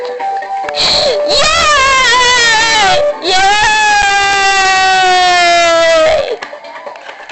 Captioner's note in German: Alle jubeln